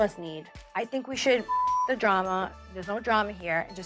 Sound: beep

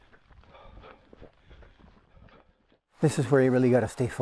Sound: laboured breathing

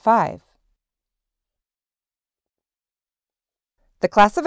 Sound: silence

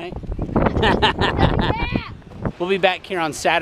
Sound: laughing

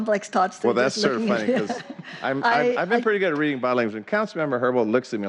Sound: laughter; laughter

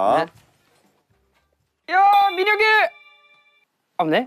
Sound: Shouting SUGA's name loudly

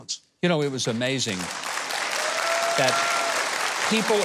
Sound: audience cheering

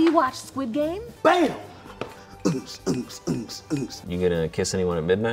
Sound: beat boxing noises

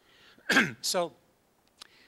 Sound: coughs

